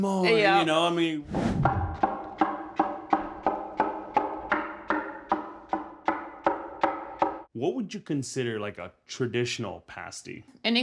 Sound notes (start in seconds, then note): 1.6 cleaver thumping